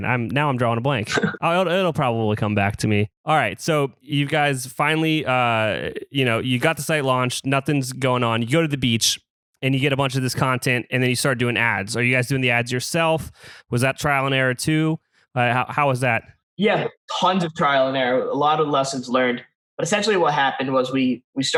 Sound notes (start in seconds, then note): 1.0 laughs